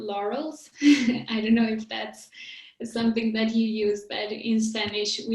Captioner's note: chuckles